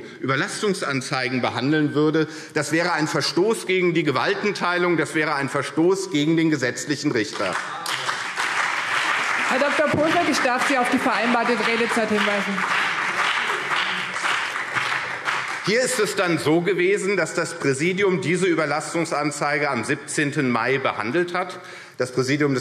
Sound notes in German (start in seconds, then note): 7.5 Beifall CDU und BÜNDNIS 90/DIE GRÜNEN